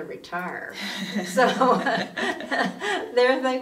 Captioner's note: both women laughing